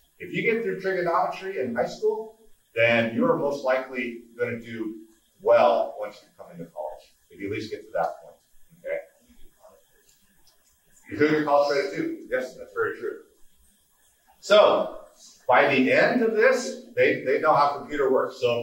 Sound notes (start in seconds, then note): none